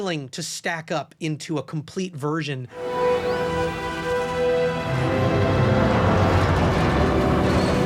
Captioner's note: ship groaning, creaking